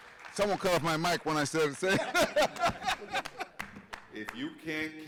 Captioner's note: audience members clapping; laughs